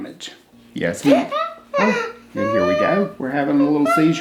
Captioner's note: exclaims